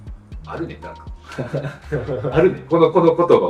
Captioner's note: laughs